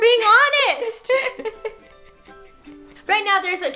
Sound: both laugh

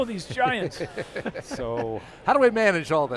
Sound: laughter

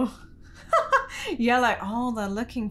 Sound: laughing

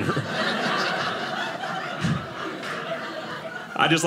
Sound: audience laughing

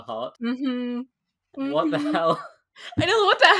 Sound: laughing

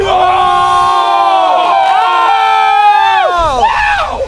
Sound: screaming

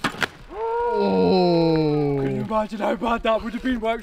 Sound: men oohing

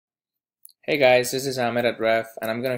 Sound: voiceover

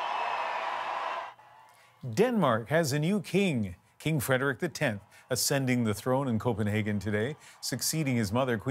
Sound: cheers and Applause

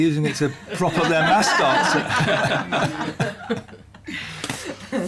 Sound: laughter

